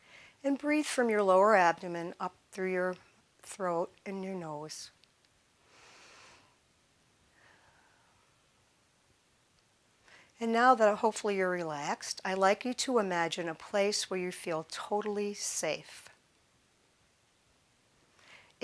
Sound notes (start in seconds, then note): none